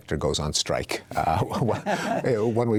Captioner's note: chuckling